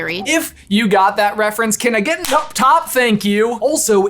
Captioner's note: claps